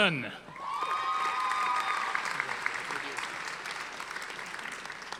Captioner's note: audience applauding